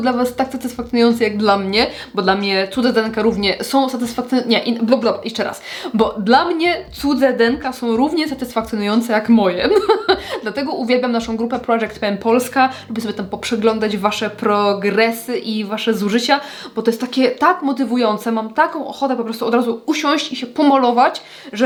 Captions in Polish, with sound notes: dla was tak satysfakcjonujący jak dla mnie? Bo dla mnie cudze denka równie są satysfakc Nie bl jeszcze raz, bo dla mnie cudze denka są równie satysfakcjonujące jak moje. [śmiech] Dlatego uwielbiam naszą grupę Project Pska, lubię sobie tam poprzeglądać wasze progresy i wasze zużycia, bo to jest takie tak motywujące. Mam taką ochotę po prostu od razu usiąść i się pomalować,